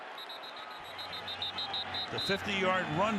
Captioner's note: whistle blows